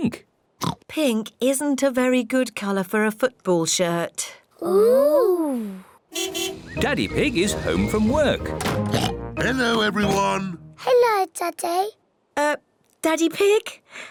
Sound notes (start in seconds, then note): 0.6 oinks; 6.1 car horn toots; 8.8 oinks